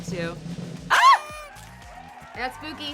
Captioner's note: party whistle